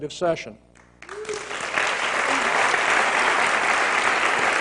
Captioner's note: applause